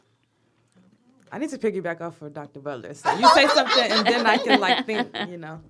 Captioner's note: laughter